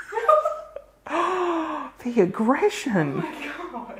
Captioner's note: gasps